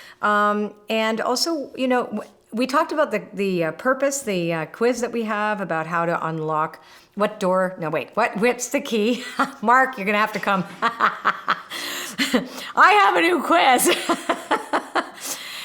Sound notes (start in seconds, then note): 10.3 laughing; 13.8 laughing